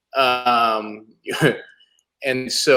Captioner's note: laughs